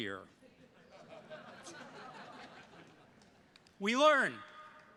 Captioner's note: attendees laughing